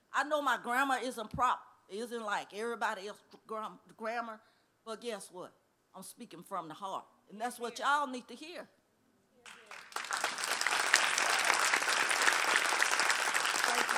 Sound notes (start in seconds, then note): 9.4 applause